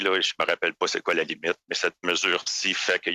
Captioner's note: speaking French